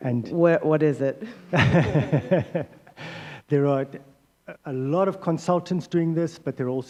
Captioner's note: laughter